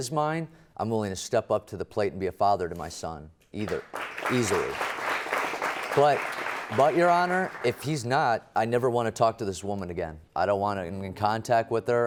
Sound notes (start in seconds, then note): 1.6 audience applauds